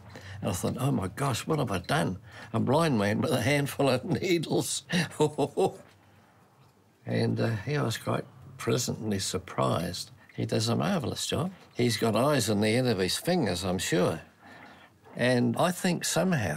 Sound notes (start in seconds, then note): 4.7 chuckles